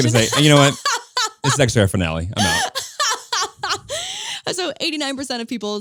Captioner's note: laughing